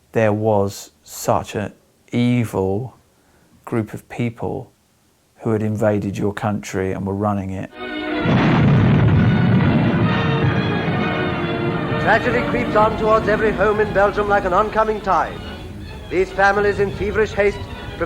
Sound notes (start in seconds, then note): 8.2 explosion booming; 8.3 lively music